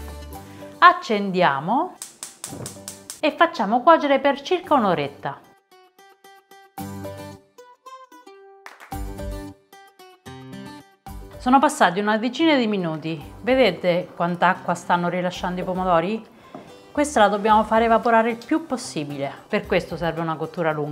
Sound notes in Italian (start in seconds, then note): 8.6 Applauso